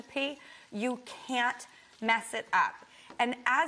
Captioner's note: food sizzling